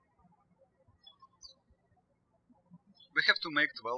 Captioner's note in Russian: птички щебечут